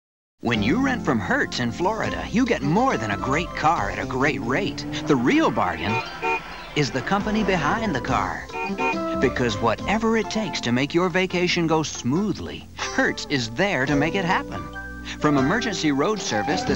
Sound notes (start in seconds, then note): 6.0 horn toots; 8.4 horn toots; 16.2 brakes squeal